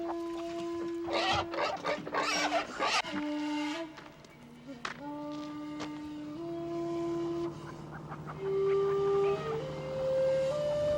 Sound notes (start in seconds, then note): 1.3 pigs grunting